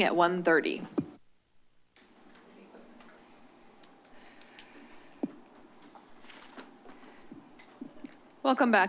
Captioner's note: silence